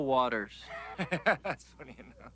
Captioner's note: Pico laughing